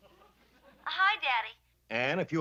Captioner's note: on phone